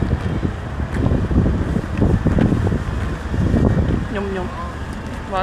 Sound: the wind is blowing very strongly

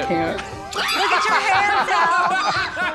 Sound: laughter

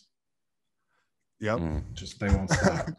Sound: laughs

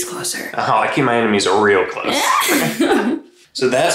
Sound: laughing

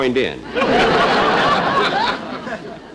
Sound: audience Applauding

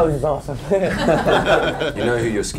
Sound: laughter

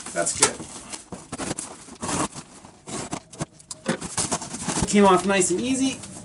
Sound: cardboard rustles

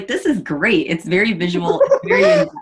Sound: chuckles

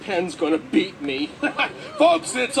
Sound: laughing

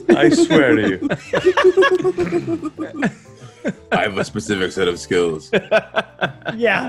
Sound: laugh

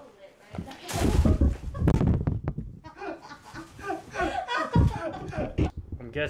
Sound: laughing

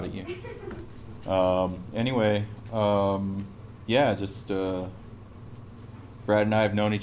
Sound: laugh

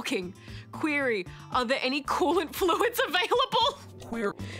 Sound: laughs

